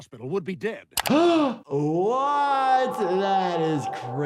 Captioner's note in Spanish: jadea